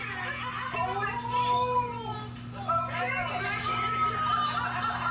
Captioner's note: laughter